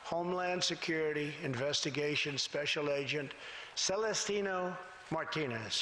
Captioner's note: none